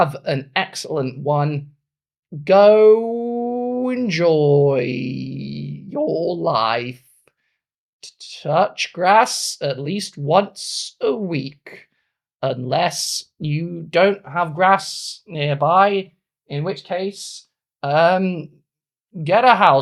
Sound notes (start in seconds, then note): 0.1 speaking in German; 19.6 speaking in German